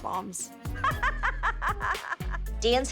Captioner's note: laughs